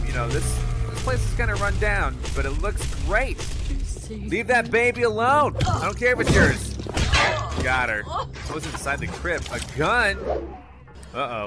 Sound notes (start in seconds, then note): 5.8 grunts; 8.4 groans